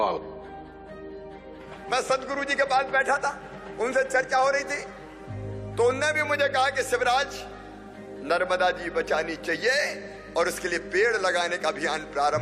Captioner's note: applause